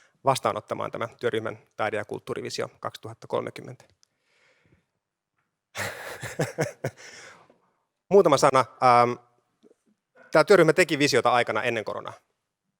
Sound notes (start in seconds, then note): 5.7 laughter